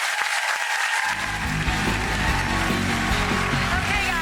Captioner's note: audience applauds